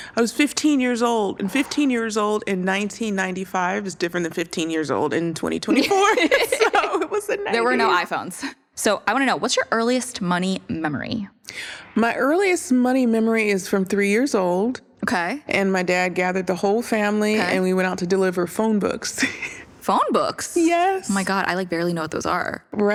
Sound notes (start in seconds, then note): 5.8 laughter; 19.2 chuckles